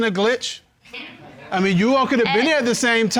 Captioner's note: audience laughing